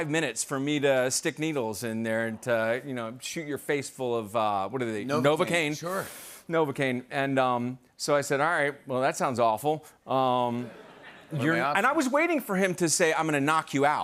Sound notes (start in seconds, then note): 10.6 laughter